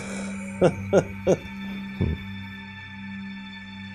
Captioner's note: laughs